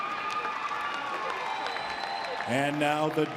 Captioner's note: audience cheers